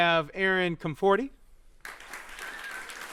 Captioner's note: applause